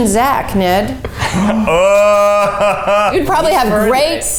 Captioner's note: laughing